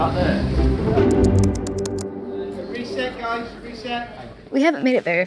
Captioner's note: typewriter clicks